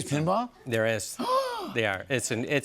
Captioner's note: gasps